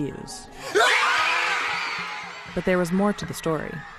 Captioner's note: cheers